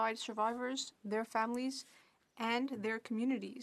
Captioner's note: speaking French